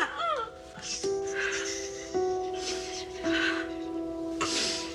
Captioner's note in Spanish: Sollozos